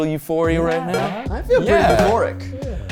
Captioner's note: text chimes